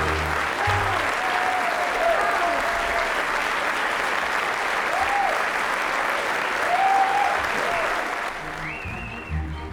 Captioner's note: applause